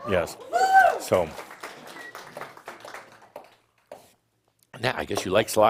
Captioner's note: someone shouts “Woo!” and more applause